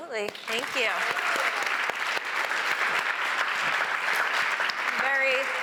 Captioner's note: applause